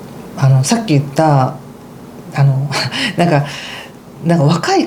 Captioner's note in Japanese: 息をのむ音